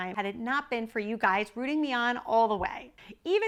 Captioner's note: none